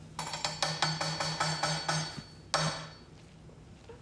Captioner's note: metallic tapping